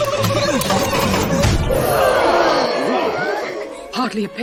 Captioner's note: groan, Aww, Angrily Grunt